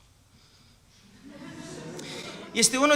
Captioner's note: laughter